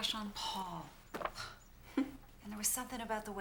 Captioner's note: chuckles